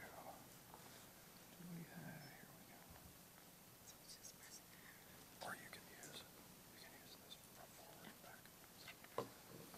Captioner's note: whispers on stage